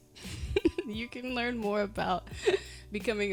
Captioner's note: giggling